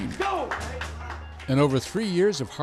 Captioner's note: applause